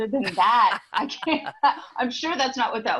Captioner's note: laughter